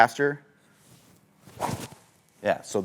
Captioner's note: golf club swings